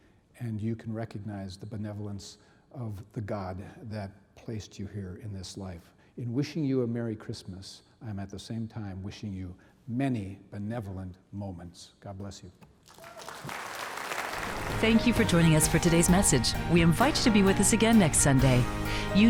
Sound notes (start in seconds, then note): 12.7 audience clapping